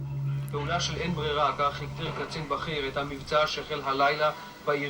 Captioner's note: Hebrew spoken audio